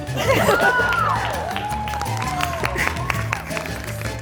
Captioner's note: audience cheering